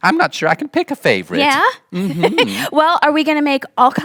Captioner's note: laughing